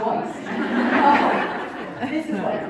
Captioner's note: crowd Laughing